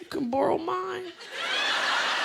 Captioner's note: laughter